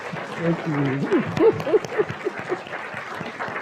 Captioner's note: laughing